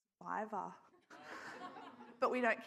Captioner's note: audience laughs